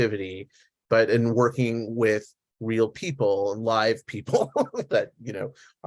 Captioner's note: laughs